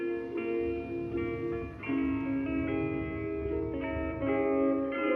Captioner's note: vehicles rumbling